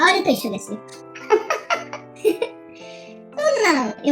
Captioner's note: laughs